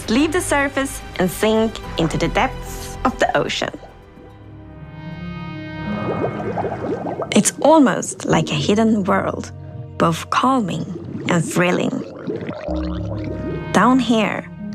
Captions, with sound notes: we must leave the surface and sink into the depths of the ocean. [Bubbling] It's almost like a hidden world, both calming and thrilling. [Drowned gurgling]